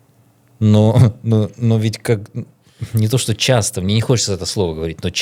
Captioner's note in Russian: откашливается